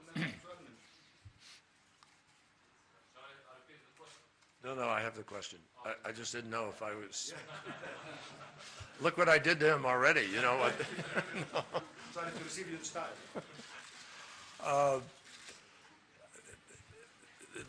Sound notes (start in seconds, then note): 1.0 in Arabic; 7.3 laughter; 11.7 laughter